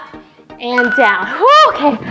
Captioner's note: timer beeps